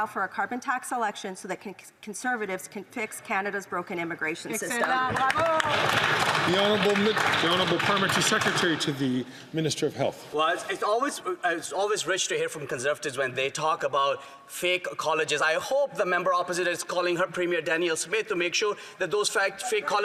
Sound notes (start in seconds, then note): 7.7 some Applause